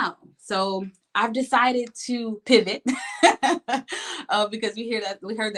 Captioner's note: laughs